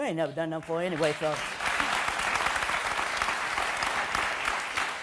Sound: audience applause

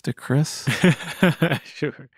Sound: laughter

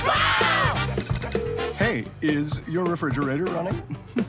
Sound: screaming; ringing

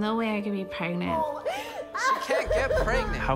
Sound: woman crying

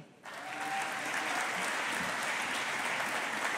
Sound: audience applauding

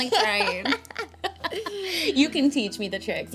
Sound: laughs

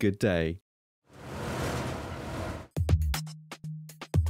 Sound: mechanical noise

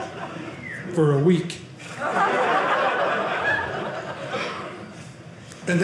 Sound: audience laughing

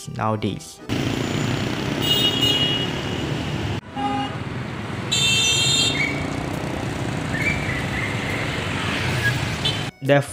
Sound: vroom and horn

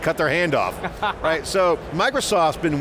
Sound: laughs

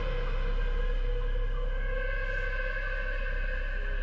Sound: loon calling

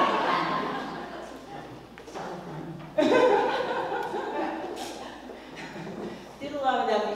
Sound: laugh

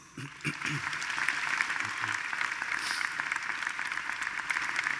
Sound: attendees applauding

